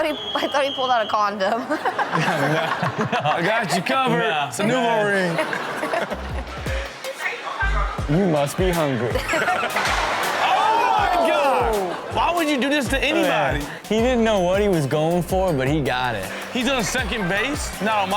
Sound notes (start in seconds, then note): 1.4 Chanel and audience laughs; 9.1 Chanel laughs